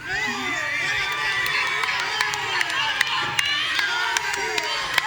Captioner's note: audience cheering